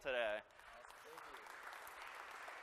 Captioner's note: applause